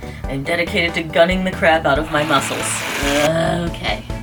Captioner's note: whirrrr